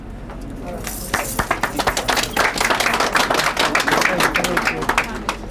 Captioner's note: crowd applause